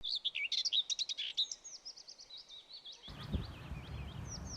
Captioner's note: bird sounds